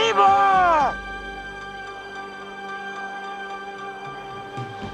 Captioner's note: echoing